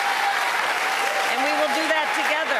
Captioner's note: cheers and applause